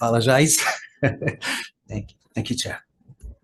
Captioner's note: man laughing